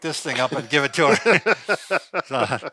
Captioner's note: laughing